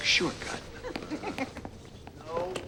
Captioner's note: Kelli laughing